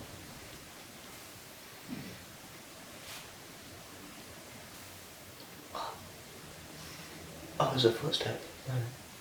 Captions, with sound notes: [Noise - footstep?] What? That was a footstep?